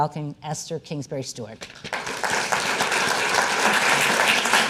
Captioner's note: audience applause